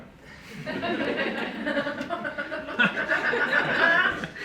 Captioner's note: group laughing